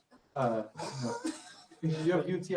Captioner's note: laughter